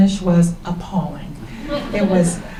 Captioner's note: laughter